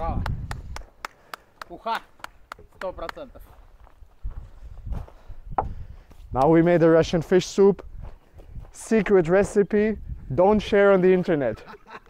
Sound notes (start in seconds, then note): 0.0 man clapping; 0.0 wind blowing; 2.7 man speaking foreign language; 11.3 man laughing